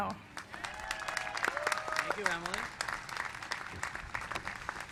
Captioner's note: applause